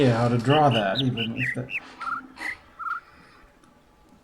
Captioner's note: overlapping birds chirping, ˥ ˥ ˩ ˧ ˩